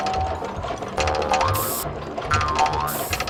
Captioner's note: aerosol sprays